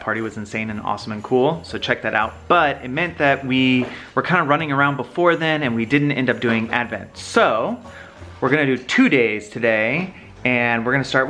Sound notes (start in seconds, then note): none